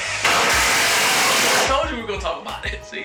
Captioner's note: drill whirring